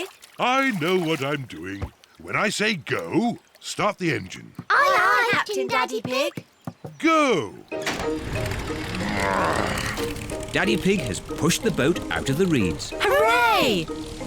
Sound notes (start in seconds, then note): 7.8 engine starts